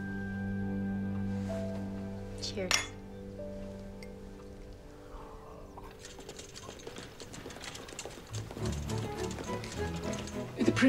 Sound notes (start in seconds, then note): 2.7 cups clinking; 6.0 cart rattling; 8.4 upbeat music